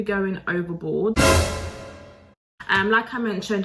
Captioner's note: dramatic clanger